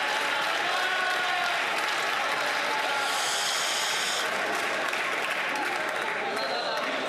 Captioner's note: some Applause